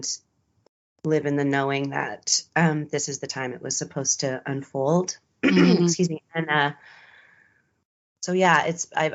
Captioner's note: clears throat